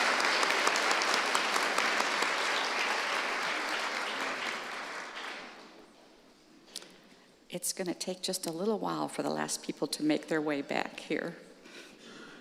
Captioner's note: applause